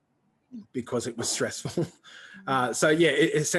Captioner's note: chuckles